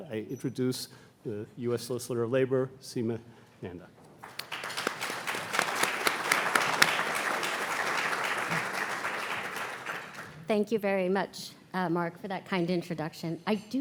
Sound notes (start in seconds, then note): 4.2 audience clapping